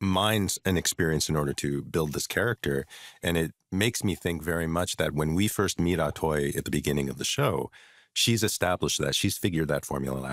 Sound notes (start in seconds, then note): none